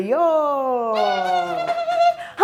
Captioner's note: high pitched scream